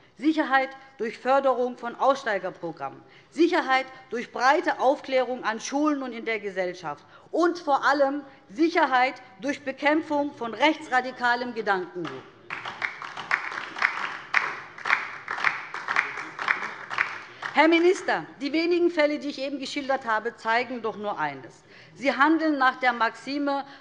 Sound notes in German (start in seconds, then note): 12.0 Beifall DIE LINKE